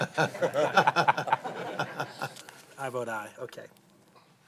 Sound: laughter

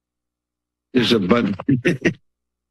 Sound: laughs

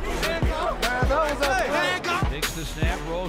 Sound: players shouting

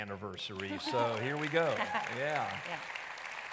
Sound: audience applauding

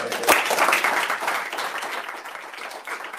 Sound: applause

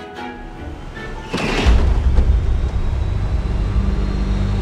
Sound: dramatic music; crash

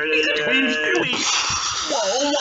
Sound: bwwssh!

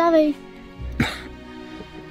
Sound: cough

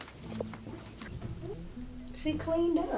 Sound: thick accent

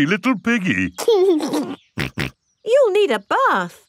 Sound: giggles and snorts

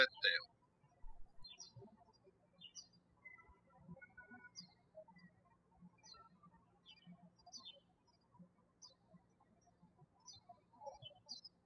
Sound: birds chirping

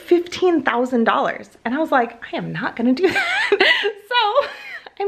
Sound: laughs

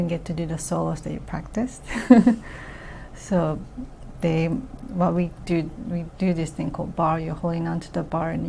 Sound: laughs

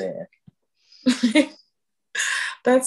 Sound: laughs

